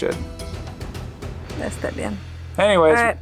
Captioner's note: speaks foreign language